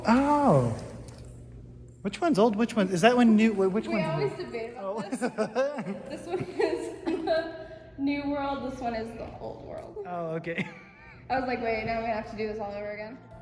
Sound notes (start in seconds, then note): 5.0 goofy laugh